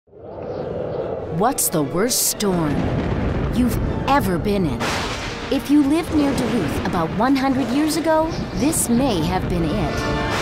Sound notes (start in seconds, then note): 0.1 wind; 2.6 thunder; 4.7 thunder